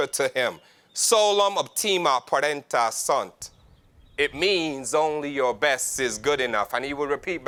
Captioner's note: foreign language 00:02:00